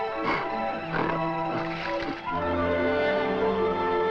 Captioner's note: gorilla grunts